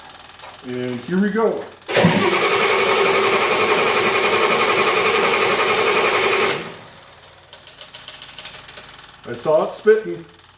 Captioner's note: engine cranking